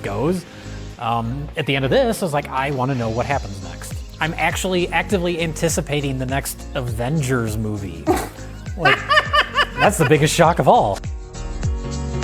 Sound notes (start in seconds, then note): 8.8 laughter